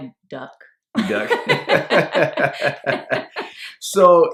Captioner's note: laughing